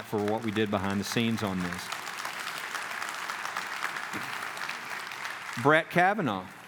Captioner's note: clapping